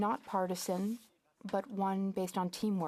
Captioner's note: speaking FRENCH